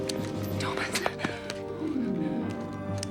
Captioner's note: whispers